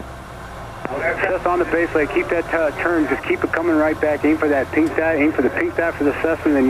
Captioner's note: air traffic control drowned out by static